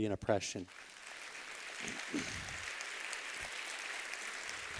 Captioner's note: applause